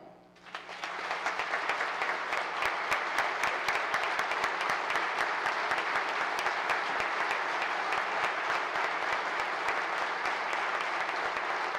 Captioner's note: applause